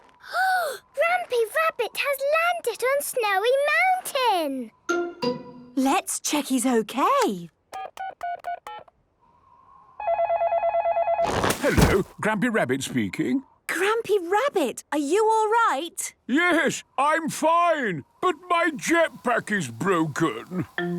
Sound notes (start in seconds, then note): 7.6 dial tones beeping; 10.0 phone ringing